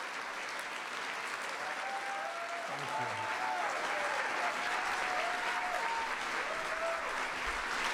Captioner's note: applause